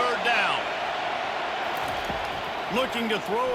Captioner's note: cheering